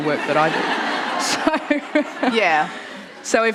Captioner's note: laughter